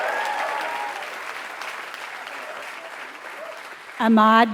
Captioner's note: applause